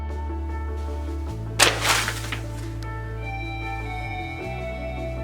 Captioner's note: crash and rustling slide